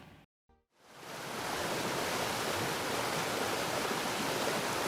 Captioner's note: water rushing